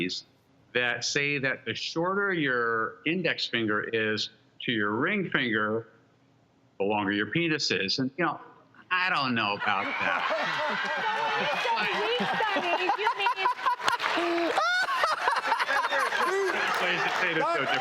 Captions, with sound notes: that say that the shorter your index finger is to your ring finger, the longer your penis is. And you know, I donno about that. (laughter) So when you say a weak study, you mean. (laughing)